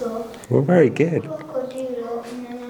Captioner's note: speaks in foreign language